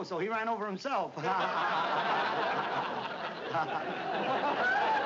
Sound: laughs

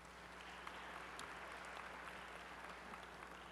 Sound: applause

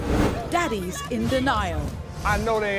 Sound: voiceover

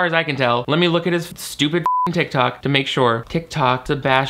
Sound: beep

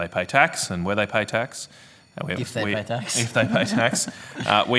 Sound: laughter

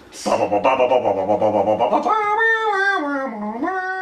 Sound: humming

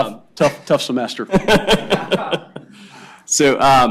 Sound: laughter

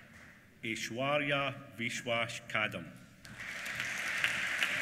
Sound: applause

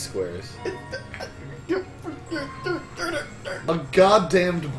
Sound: stammers in disbelief

